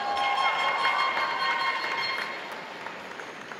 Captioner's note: applause